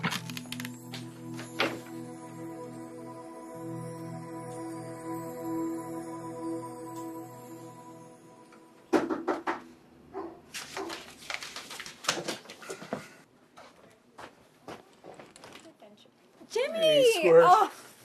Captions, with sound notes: -[fervent knocking] -[dog barking] -Jimmy! Oh! -Hey, Squirt!